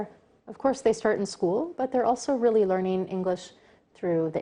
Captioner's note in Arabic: تتحدث الإنجليزية